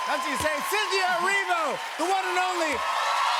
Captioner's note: cheers and applause